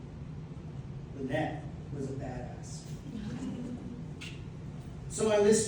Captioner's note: laughter